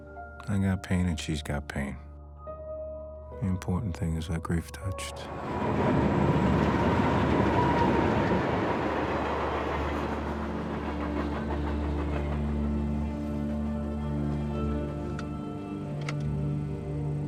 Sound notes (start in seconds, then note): 5.6 train rumbling; 10.9 somber music